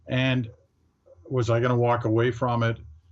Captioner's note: chuckling